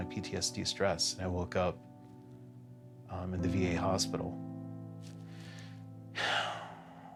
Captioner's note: sighs